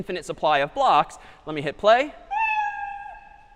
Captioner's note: meow